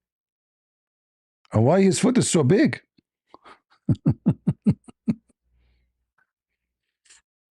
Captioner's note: laughter